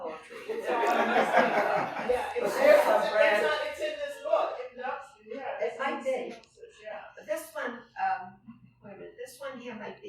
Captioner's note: laughter